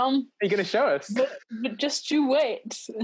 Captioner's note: laughing